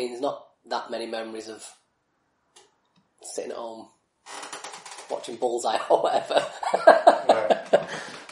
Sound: laughs

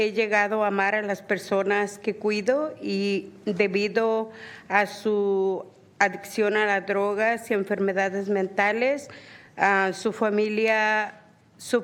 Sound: speaking spanish

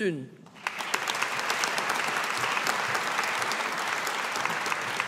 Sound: audience applauding

